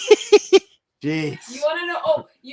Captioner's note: laughs